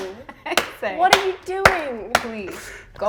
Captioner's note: claps